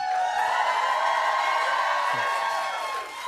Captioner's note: cheers and applause